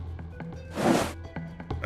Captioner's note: shuffle-shove noise